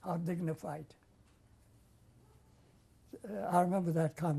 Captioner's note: pauses for 3 seconds